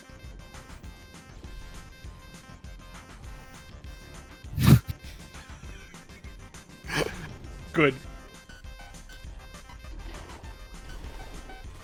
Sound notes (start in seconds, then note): 6.8 both snickering